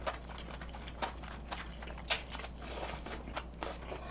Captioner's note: eating like crazy